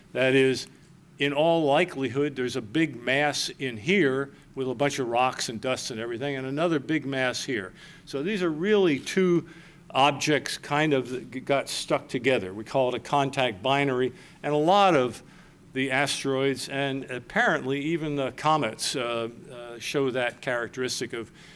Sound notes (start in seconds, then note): none